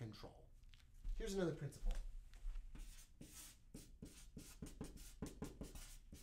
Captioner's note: marker writing